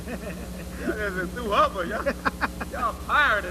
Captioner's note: laughter